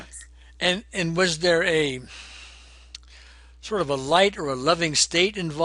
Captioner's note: exhaling